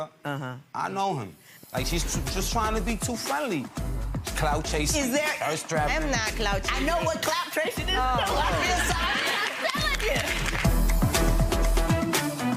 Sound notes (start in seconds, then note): 8.6 audience applauds; 10.0 upbeat music